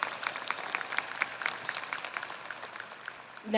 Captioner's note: audience applauding